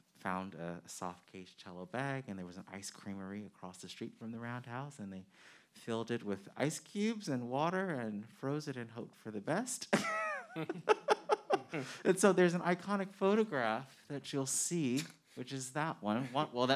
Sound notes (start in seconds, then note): 9.9 men chuckling